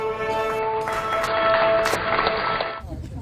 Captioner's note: applause